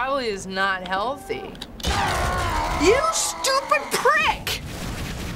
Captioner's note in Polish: Głośne krzyczenie